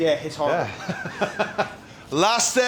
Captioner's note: laugh